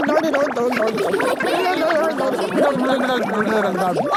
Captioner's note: children laughing